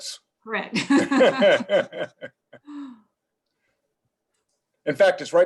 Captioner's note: laugh